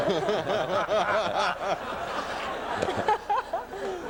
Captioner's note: audience laughs